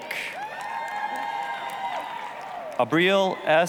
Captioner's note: applause, cheering